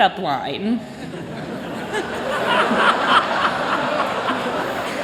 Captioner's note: laughter